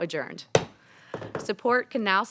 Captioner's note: hammer tapping